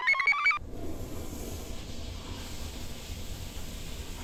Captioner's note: computer chirps; toilet flushes